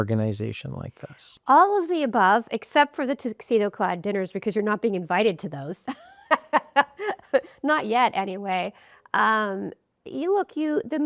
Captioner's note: laughs